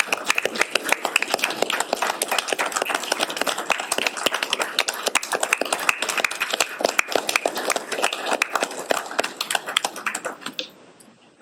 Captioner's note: applause